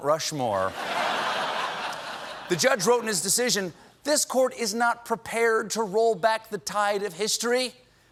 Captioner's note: laughter